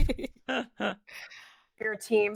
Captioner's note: laughs